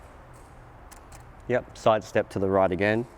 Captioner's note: clicking